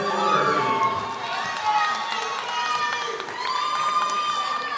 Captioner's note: audience applauding